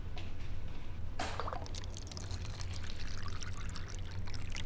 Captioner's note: mug clanking; milk pouring